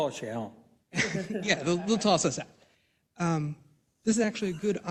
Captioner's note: laugh